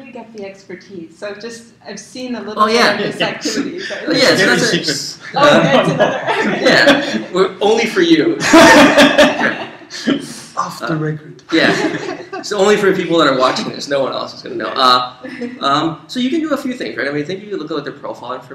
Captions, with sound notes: of thing. So where do you get the expertise? Oh yeah, yeah. Only for you. [laugh] Off the record. Only for people watching this, no one else is gonna know. So you can do a few things, you can take a